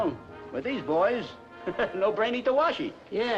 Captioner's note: laughs